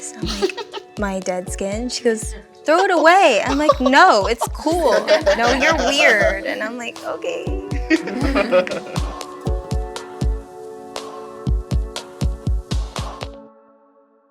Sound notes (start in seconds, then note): 7.8 laughter; 10.1 soft music plays